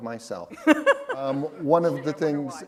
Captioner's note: laughter